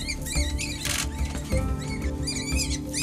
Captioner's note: rabbit squealing; camera clicking; rabbit squealing